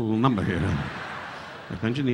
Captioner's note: audience laughing